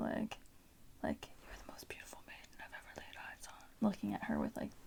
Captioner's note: whispers